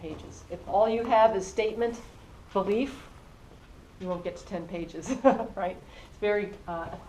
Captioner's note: laugh